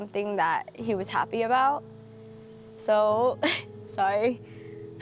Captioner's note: laughs